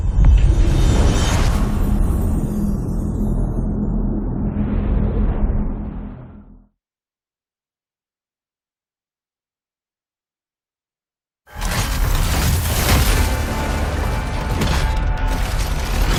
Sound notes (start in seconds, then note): 0.1 dramatic sound; 11.7 metallic clinking